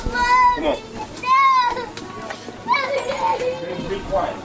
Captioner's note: crying continues